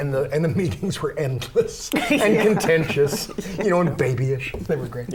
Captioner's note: laughter